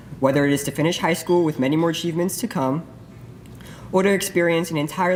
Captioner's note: none